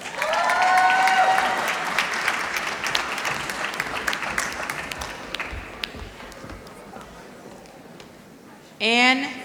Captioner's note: applause